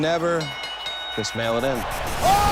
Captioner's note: bell ringing